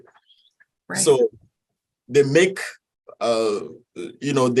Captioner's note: speaks in foreign language